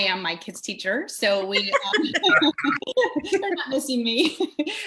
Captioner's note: all laughing